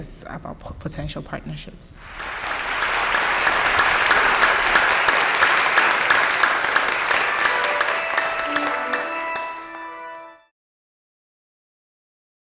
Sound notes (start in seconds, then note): 2.0 applause; 7.3 stately organ music